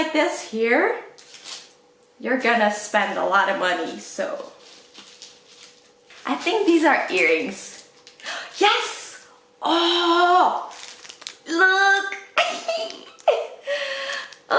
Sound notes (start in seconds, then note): 8.4 gasp; 12.4 laughs